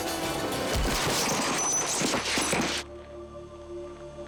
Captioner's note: body slams